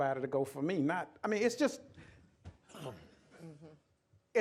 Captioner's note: laughter